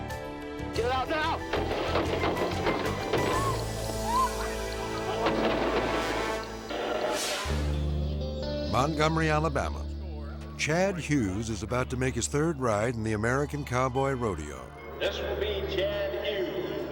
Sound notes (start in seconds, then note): 1.5 gunfire banging; 3.1 driver screaming; 5.0 gunfire banging; 7.0 scene swooshing